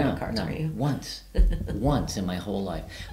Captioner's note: giggling